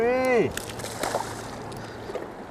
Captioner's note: splash